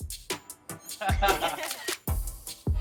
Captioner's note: laughs